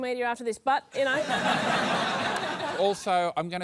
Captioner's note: laughter